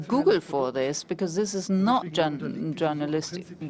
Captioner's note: German spoken